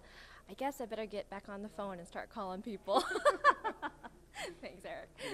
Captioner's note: both laughing